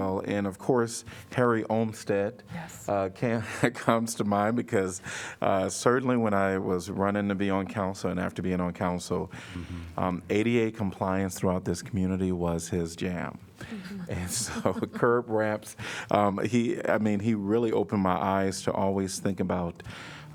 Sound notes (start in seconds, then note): 13.7 laughter